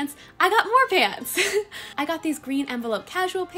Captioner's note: laughs